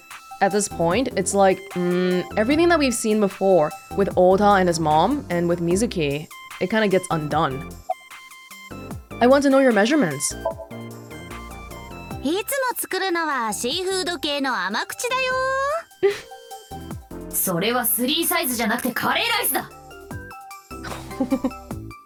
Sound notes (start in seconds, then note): 16.0 chuckles; 20.8 chuckles